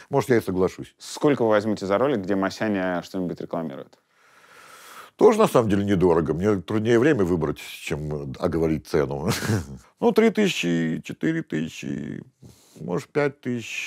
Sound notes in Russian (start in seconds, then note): 9.2 усмехается